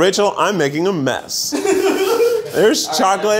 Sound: laughing

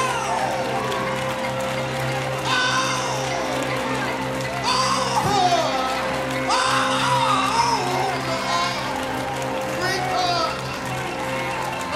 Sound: applause

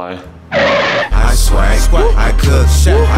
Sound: screeching sound; rap music

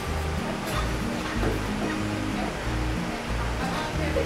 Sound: bars screeching

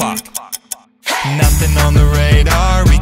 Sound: clock ticking

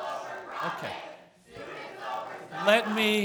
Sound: students chanting

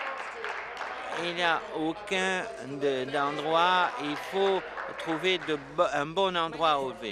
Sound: applause

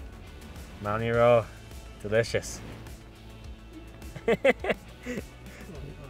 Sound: laughs

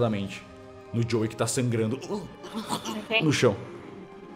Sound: gagging noises

